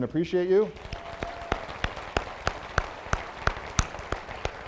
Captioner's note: applause